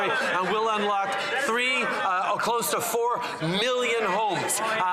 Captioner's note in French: voix de l'interprète